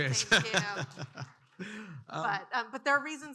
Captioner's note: audience clapping; laughs